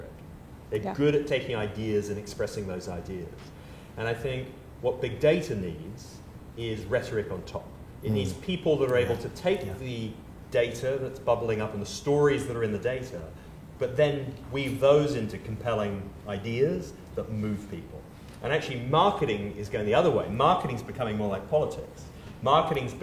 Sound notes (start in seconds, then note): none